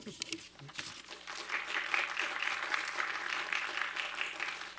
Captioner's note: attendees applaud